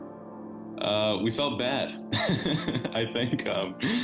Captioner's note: laughs